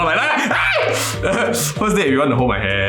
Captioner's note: screams